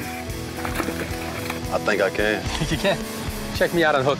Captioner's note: laughs